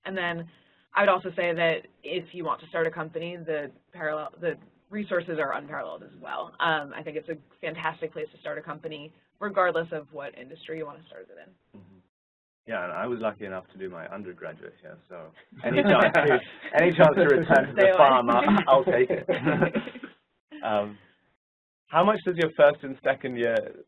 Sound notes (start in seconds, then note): 15.5 laugh